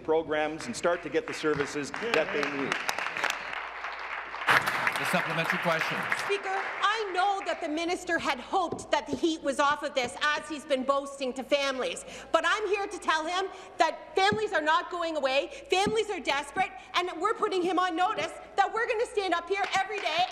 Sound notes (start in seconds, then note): 6.7 applause